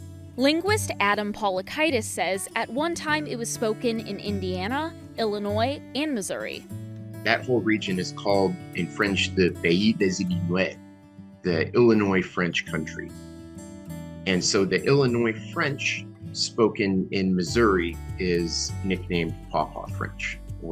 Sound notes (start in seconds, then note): 9.0 speaks in foreign language